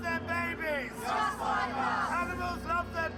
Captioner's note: crowd